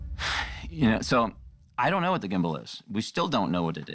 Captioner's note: sighs